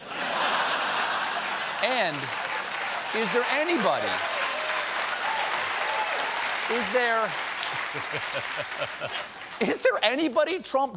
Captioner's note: applause; laughter